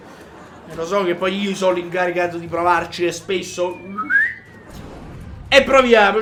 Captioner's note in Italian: fischio